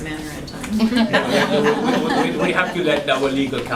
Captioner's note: laughter